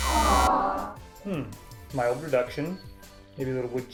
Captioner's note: buzzer